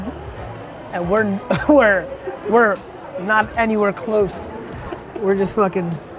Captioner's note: laughs